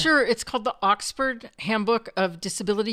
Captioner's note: none